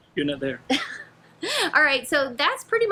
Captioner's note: laughing